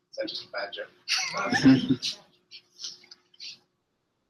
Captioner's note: laughter